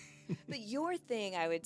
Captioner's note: laughing